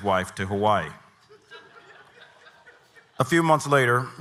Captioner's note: audience laughing